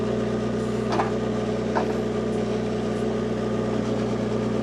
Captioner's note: motor whirring